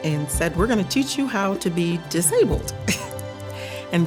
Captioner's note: laughs